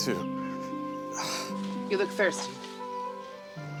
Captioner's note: sighs